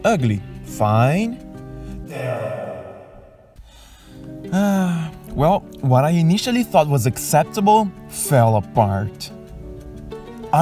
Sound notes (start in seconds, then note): 2.0 sigh